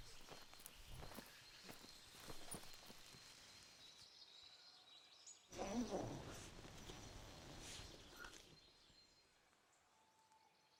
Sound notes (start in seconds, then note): 4.4 birds chirping; 5.5 tent unzipping